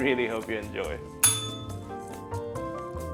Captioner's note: bell rings